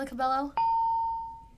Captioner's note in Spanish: ding